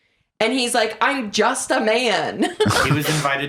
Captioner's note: laughs